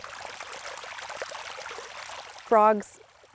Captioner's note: water rippling